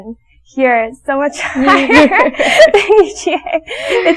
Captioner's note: laughing